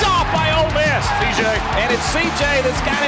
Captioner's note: voiceover